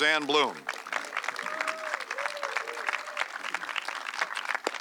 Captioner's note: audience clapping